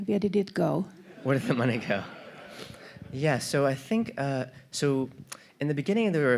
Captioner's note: audience laughter